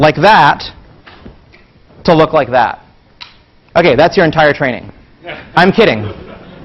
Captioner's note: laugh